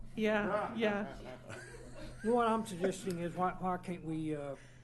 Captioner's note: laughter